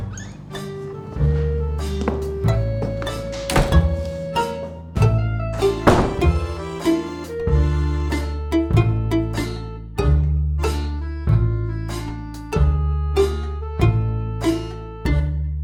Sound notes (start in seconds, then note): 2.6 door clicks shut; 5.8 door clicks shut; 9.5 acoustic guitar music